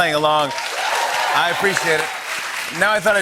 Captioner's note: applause